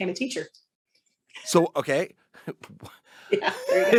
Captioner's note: chuckling